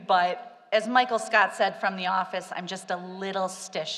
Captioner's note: none